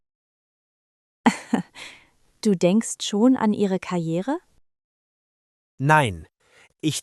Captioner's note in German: laughs